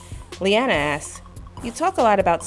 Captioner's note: voiceover